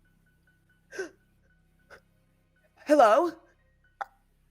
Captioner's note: person gasping